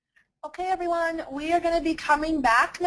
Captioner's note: voiceover